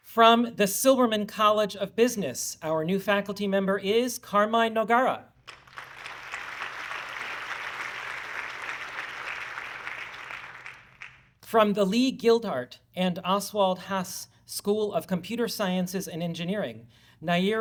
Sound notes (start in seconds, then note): 5.4 audience clapping